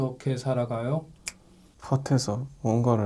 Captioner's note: snap!